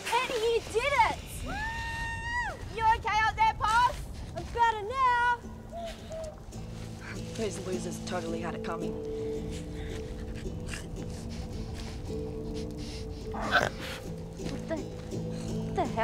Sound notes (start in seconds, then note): 1.6 possum whooping; 10.4 Eddy snorting; 13.5 Eddy grunting